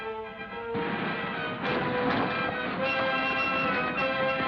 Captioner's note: car engines revving